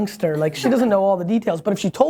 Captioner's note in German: Lacht